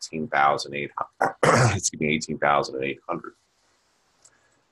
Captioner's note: clears throat